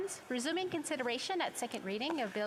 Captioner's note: speaking French